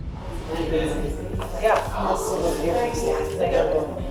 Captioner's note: tense music; inmates chatting